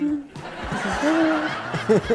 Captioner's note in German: Gelächter